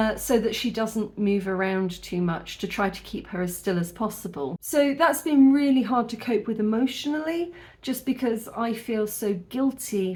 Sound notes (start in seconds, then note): none